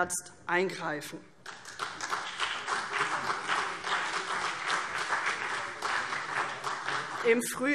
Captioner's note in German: Beifall CDU und BÜNDNIS 90/DIE GRÜNEN